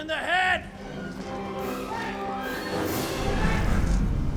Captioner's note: roaring